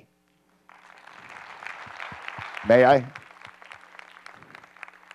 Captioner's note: applause